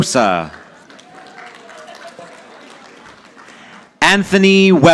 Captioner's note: audience applauding